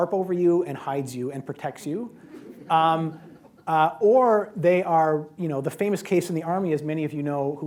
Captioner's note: laughter